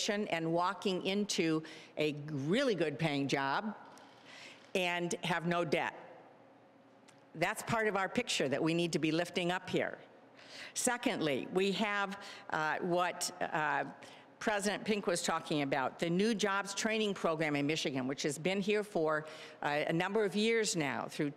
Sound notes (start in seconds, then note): none